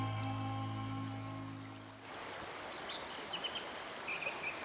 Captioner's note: water rushing